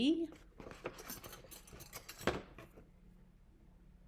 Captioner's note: objects clinking